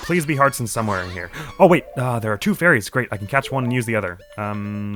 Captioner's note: gasps